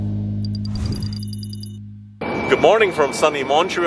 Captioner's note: text typing